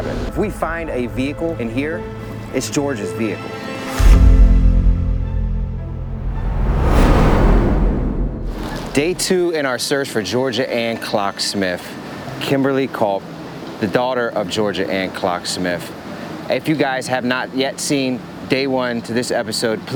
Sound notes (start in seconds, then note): 3.9 music flourishes; 3.9 traffic humming